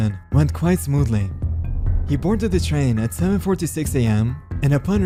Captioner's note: air whoosh